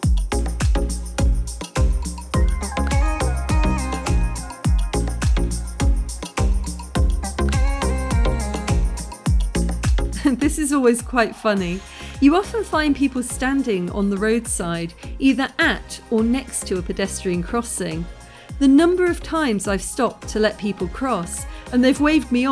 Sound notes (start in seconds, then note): 10.1 chuckles